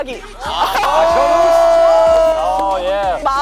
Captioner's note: cheer